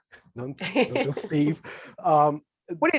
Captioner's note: laughing